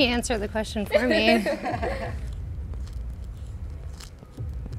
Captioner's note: group laughing